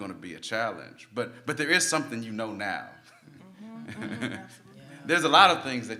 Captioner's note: laughs